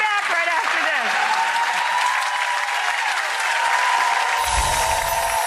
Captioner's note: audience applauding; magical music